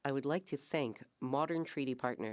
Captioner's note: speaking French